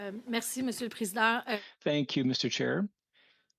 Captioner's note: speaking French